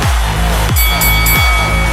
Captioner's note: boxing Bell Ringing